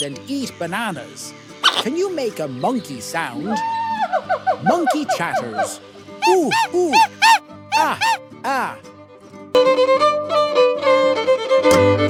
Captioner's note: monkey chatters: "Ooh ooh! Ah ah!"